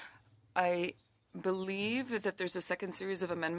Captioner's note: speaking French